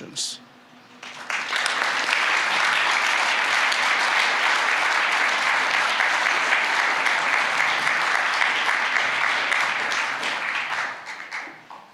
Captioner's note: applause